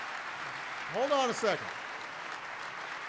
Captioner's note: applause